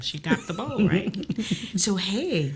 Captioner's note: Kellita laughs